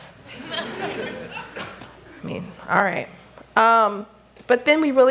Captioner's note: laughter